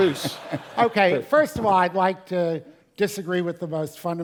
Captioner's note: laugh